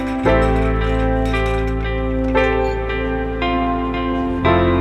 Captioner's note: bright gentle music; hose clanging; bright gentle music